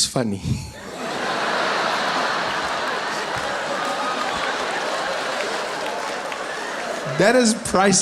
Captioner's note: laughter